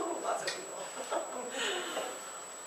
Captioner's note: laughs